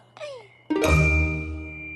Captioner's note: tink!